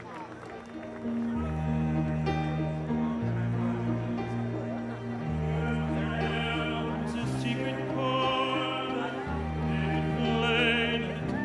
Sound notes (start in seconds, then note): 0.0 applause